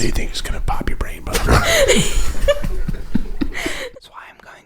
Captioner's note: laughing